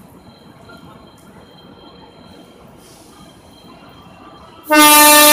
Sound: train horn warning

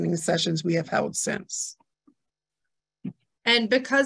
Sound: A pause

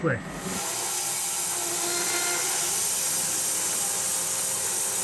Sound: saw whirring

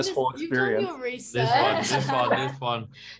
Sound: everyone laughs

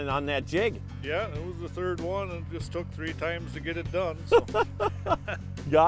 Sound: laughing

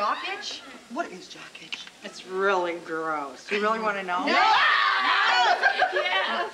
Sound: laughing

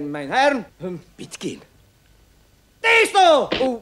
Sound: whispers

